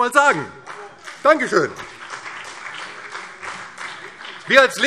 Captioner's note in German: Beifall BÜNDNIS 90/DIE GRÜNEN